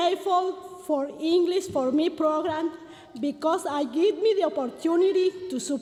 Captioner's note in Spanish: continúa hablando en inglés